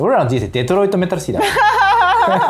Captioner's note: laughs